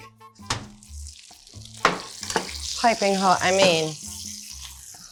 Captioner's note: food sizzling